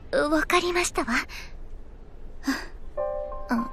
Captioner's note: sigh